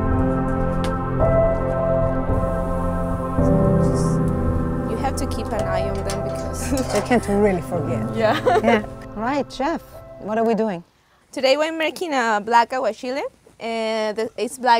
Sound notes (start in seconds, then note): 8.2 laughs